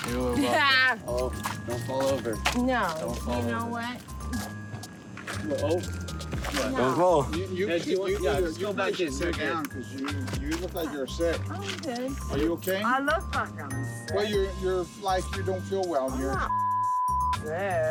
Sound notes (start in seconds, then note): 0.2 laughs; 7.5 overlapping chatter